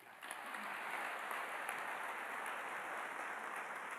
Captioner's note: applause